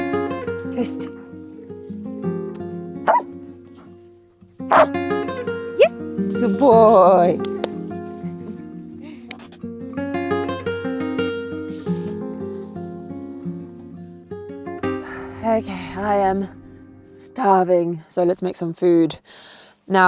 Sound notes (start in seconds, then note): 3.0 Vilk barks